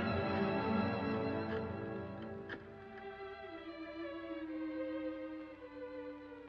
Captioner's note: sentimental music; rotary phone dials; sentimental music